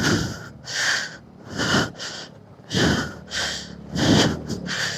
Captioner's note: gasp